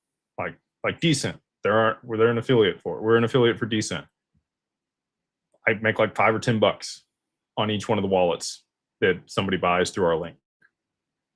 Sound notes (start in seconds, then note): none